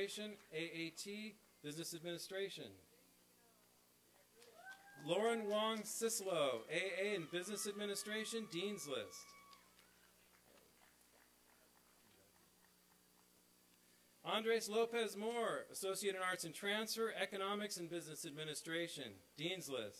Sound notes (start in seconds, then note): 4.4 applause; 8.9 applause and cheering